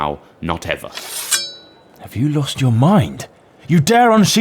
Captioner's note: sword Unsheaths